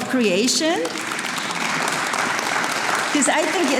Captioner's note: audience applauding